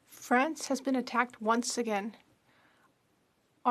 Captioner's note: speaking French